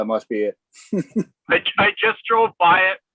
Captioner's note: chuckling